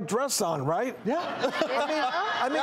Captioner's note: audience laughing